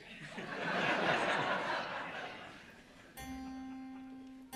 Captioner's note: audience laughing; gentle music